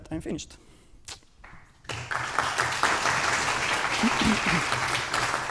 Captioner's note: applause